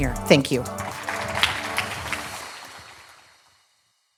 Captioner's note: clapping